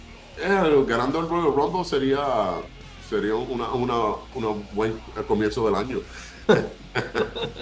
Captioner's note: laugh